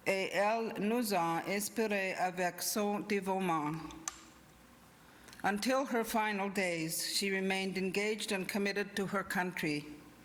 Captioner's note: speaking inuktitut